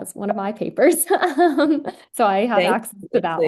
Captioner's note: giggles